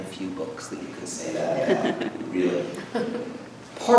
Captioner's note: audience laughs